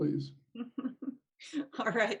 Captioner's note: laughing